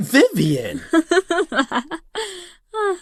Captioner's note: Vivian laughs